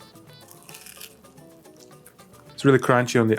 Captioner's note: sandwich crunching